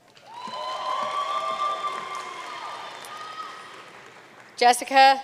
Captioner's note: audience cheering and applauding